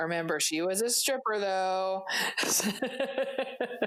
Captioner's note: laughs